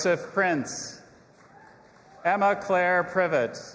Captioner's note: audience applauding and cheering